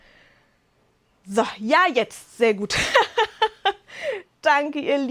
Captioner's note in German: Lachen